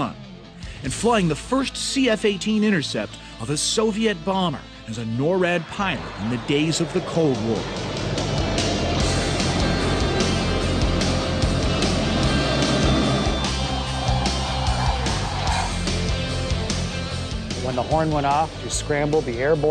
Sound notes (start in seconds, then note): 8.6 roaring of jet engines